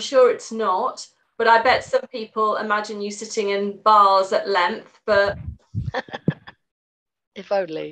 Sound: laughs

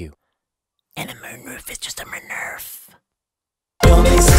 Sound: whispered

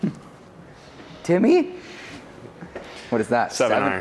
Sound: chuckles

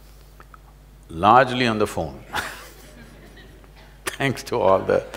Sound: laughs

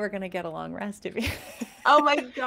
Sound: laughs

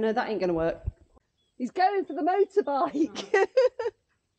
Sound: laughter

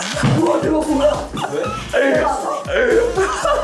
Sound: hahahahahaha

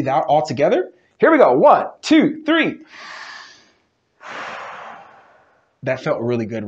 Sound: breathe out; breathe in

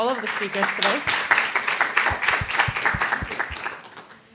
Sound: applause

